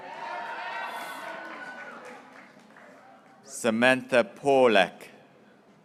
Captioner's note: graduates cheering